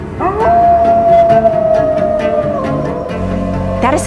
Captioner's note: red wolf howling